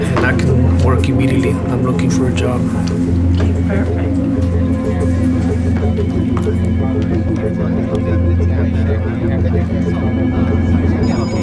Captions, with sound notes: Not work immediately looking for a job. - Perfect [Office noise]